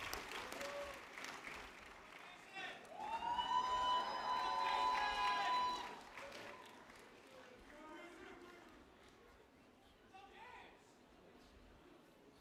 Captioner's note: applause